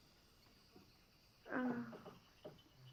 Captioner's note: sighing